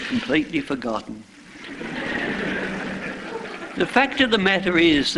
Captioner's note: laughter